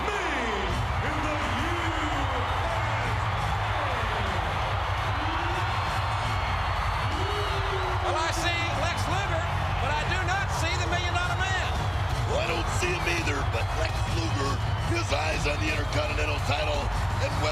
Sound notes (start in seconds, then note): 7.1 crowd cheers